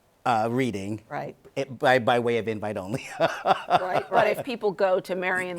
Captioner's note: laughing